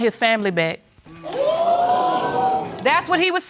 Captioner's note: audience exclaiming